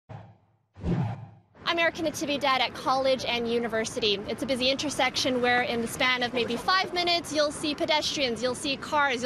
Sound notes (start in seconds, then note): 0.7 whoosh sound effect